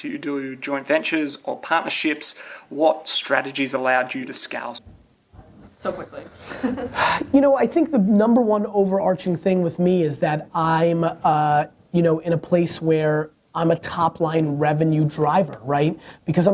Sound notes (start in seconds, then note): 6.4 laughs